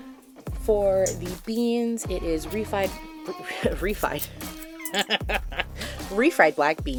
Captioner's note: soft cackling